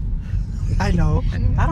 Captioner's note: laughs